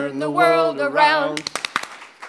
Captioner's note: clap, clap, clap